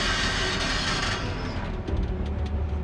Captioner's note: track creaking